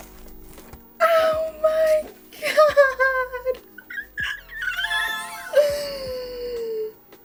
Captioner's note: excited screeching; big gasp caused by pure beauty